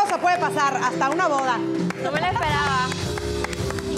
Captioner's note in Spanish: Aplausos